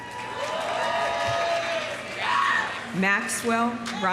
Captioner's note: audience applauding; audience cheering